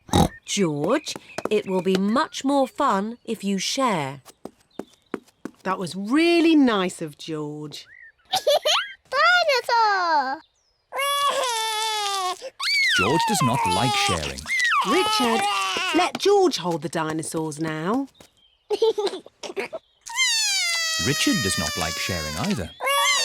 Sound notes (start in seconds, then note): 0.0 oinks; 8.3 giggles; 11.0 cries; 18.7 giggles; 20.0 cries